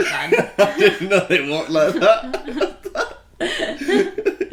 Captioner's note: laughing